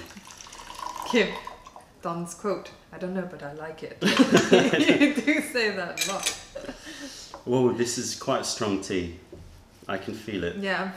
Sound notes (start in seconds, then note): 4.0 laughter